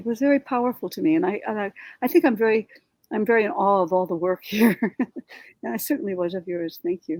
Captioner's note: chuckles